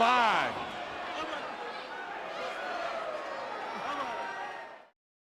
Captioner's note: crowd cheering